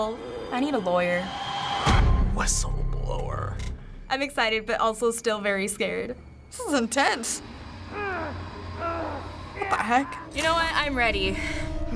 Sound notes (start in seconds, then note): 2.1 dramatically; 7.8 screaming in anquish